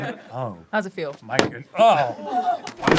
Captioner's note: dense slap on table